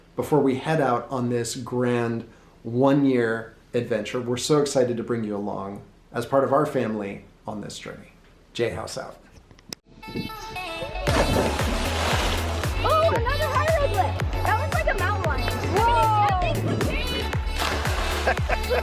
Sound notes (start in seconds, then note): 10.4 upbeat music; 11.0 water sloshing; 18.0 laughs